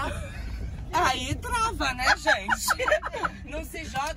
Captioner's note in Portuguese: risos